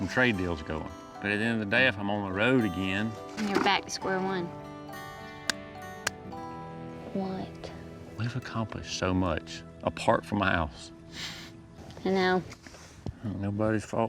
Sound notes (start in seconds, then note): 3.9 taps fists